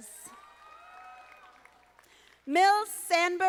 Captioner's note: audience applauding